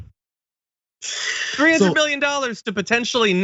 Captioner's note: laugh